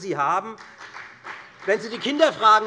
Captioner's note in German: Beifall bei der FDP